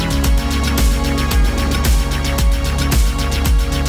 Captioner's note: distant horn blares